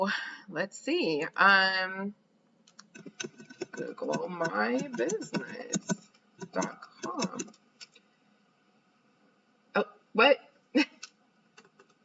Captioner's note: typing